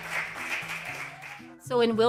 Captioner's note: cheering and applause